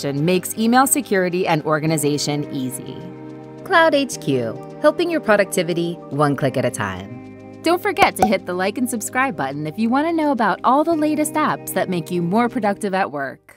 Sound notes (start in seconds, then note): 8.0 bubble popping